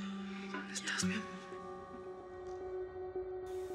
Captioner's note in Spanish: en voz baja